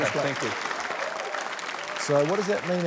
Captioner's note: applause